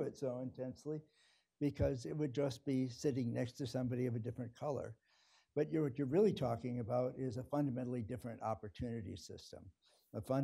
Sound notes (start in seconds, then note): none